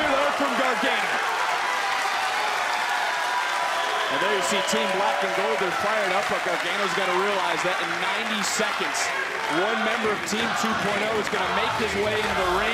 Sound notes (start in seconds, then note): 3.3 crowd cheering